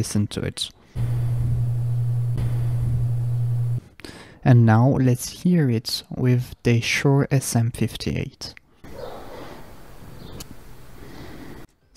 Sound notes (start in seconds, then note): 0.9 fans whooshing loudly